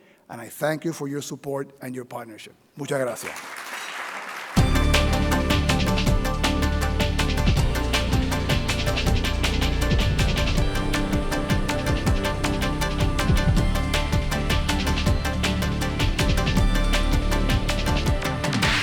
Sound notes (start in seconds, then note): 2.6 speaking in foreign language; 3.1 audience applauding; 3.8 closing Theme Music